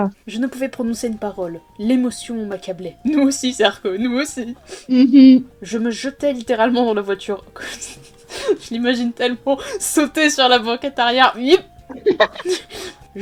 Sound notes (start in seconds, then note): 4.5 snif snuf; 7.5 Red snickering; 11.9 swiss laugh